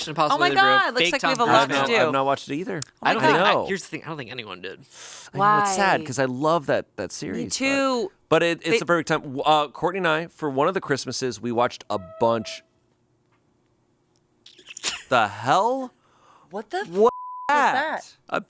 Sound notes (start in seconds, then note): 13.6 table scrapes; 17.1 beep